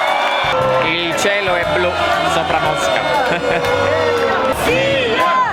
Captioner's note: imitating a famous Italian commentator